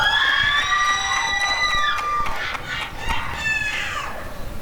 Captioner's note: applause and cheering